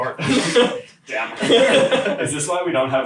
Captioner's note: laughing